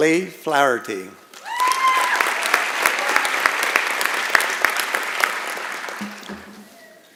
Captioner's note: applause and Cheering